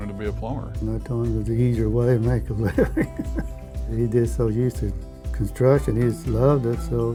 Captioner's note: laughs